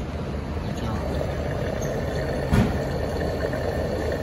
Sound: gas refilling

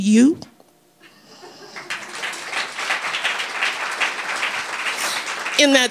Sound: audience clapping

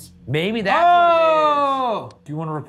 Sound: exclaiming

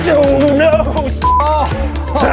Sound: beep

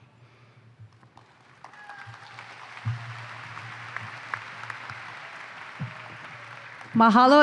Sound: applause

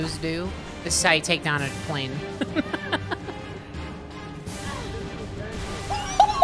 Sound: laughing

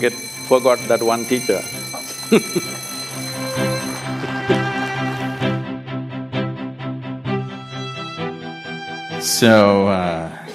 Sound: laughs

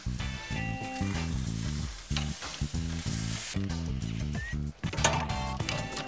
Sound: grill sizzling; bright music; bright, percussive music

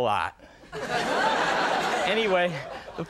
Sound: audience laughing

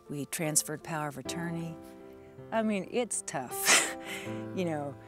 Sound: sighs

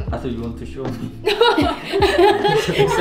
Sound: laugh

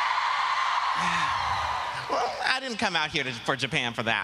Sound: applause

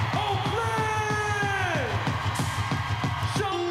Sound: applause

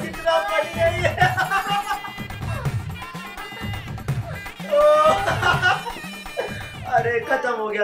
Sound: laughing

